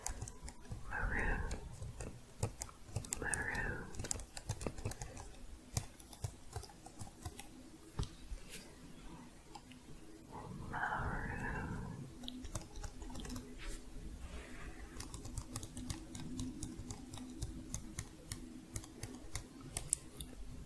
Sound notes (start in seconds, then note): 4.7 typing sounds; 12.2 tapping on keys